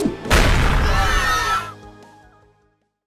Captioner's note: scream